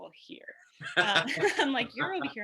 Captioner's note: laughs